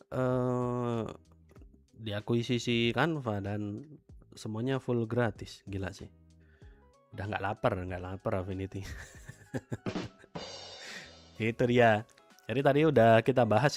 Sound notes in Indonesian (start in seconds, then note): 10.7 tertawa